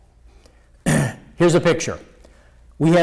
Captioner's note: clears throat